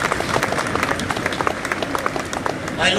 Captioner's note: applause